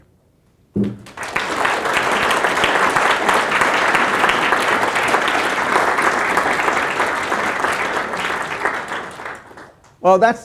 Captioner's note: applause